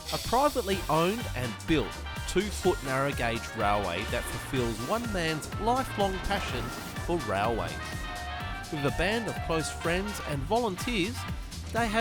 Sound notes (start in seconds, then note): 8.7 train whistle blowing